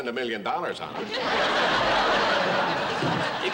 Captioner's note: laughter